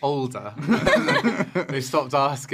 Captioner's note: laughter